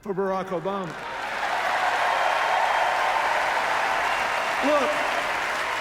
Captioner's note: cheers, applause